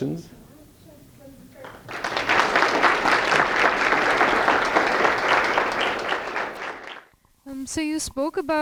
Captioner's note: applause